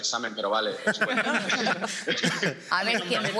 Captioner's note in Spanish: algunos ríen